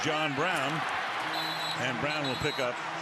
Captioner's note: whistle blows